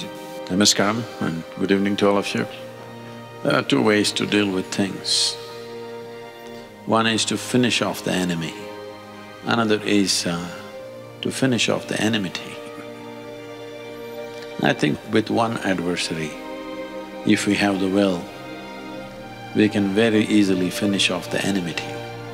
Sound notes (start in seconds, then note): 12.6 laughs